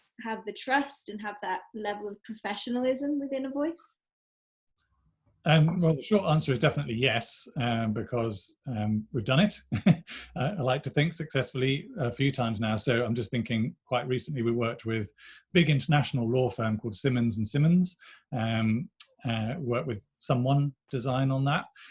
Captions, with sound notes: have the trust and have that level of professionalism within a voice? -The short answer is definitely yes because we've done it [laughs] I like to think successfully a few times now. I'm just thinking quite recently we worked with a big international law firm called Simmons & Simmons and worked with someone design on that.